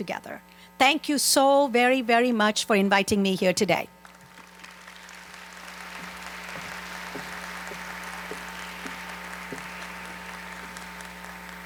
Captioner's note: applause